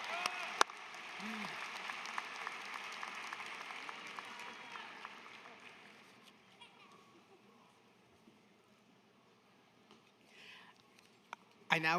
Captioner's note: applause